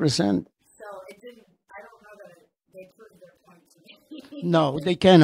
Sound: laughs

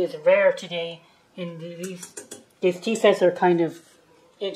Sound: tap tap tap

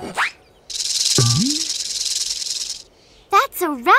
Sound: rattling

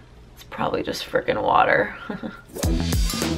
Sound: chuckling; upbeat music

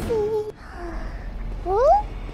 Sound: sigh

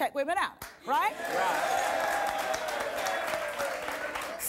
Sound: audience applause

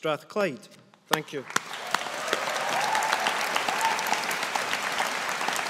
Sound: audience applauding

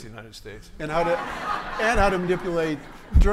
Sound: everyone laughing

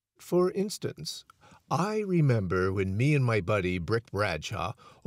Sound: none

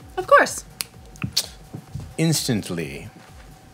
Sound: finger snapping

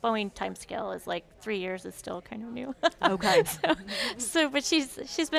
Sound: laughs

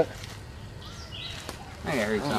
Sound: distant yelling

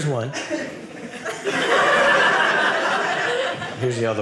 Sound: audience laughing

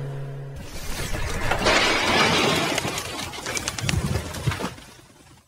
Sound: crashing sounds

